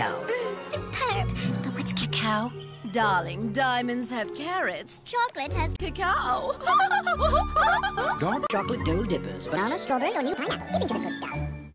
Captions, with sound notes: mmm, superb! but what's cacao? darling, diamonds have carats, chocolate has cacao! *laughing* dark chocolate dole dippers. banana, strawberry, or new pineapple. dip into the good stuff.